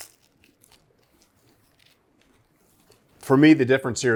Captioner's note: pizza crunches